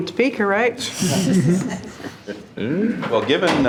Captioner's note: trustees laughing